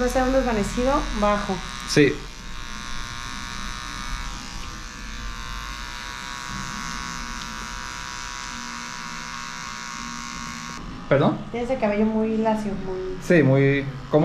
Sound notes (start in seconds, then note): 0.1 speaking in Spanish; 3.3 razor buzzing